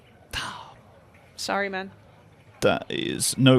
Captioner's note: sighs